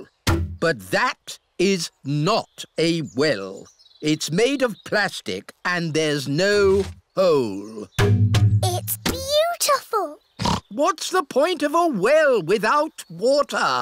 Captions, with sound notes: But that is not a well. It's made of plastic and there's no hole. -It's beautiful! -(OINKS) What's the point of a well without water?